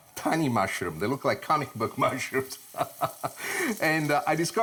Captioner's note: laughs